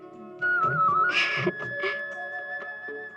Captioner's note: chuckles